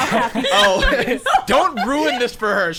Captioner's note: players laughing